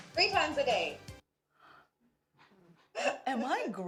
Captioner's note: stifled laughter